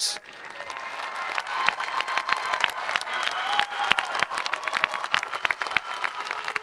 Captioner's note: audience applauding and cheering